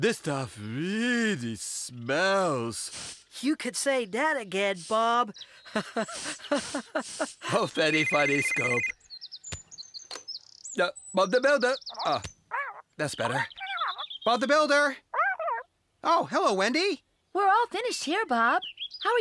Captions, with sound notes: THIS STUFF REEEALLY SMELLS. DOO CAN SAY DAT AGAIN, BOB. ( Laughing ) OH, VERY FUDDY, SCOOP. ( Cell Phone Ringing ) DUH, BOB DA BUIWDER, OH, THAT'S BETTER. BOB THE BUILDER! OH, HELLO, WENDY! WE'RE ALL FINISHED HERE, BOB.